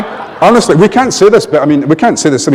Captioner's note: laughter